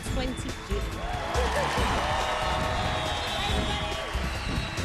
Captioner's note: cheers and applause